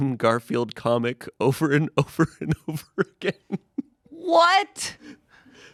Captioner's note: laughs